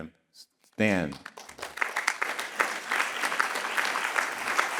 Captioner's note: all clapping